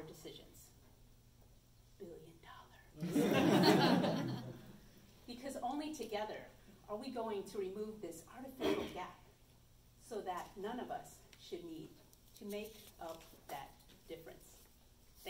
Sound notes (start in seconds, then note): 0.8 loud whisper; 3.0 audience laughs